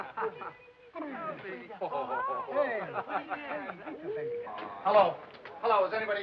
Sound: laughing

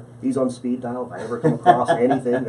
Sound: laughs

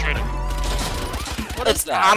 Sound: guns firing

